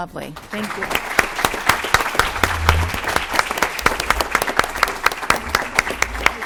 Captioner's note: applause